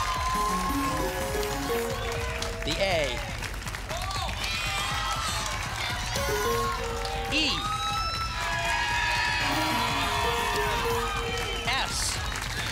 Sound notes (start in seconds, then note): 0.0 applause and cheering; 0.3 pinging sounds; 4.4 applause and cheering; 6.1 pinging sounds; 8.3 applause and cheering; 9.3 pinging sounds